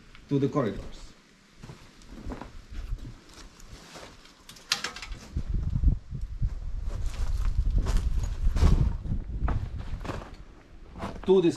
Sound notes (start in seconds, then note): 6.4 steps